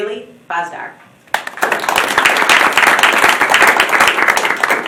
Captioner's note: applause